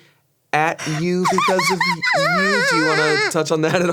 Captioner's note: Ironmouse laughing